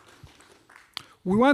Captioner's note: audience applause